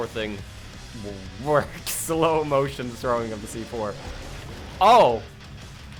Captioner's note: laughs